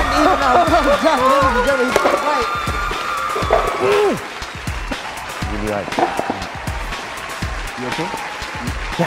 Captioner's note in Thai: เสียงเฮ